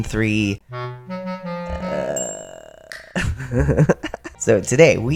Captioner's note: playful music; laugh